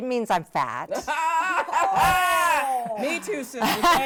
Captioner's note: all laughing